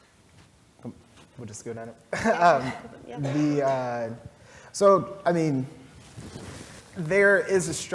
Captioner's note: laugh